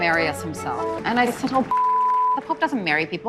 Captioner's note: beep